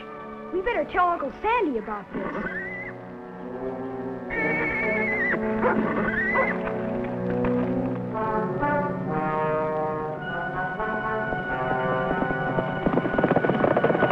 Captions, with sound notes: - Gosh, we better tell Uncle Sandy about this. (horse neighs) (intense music)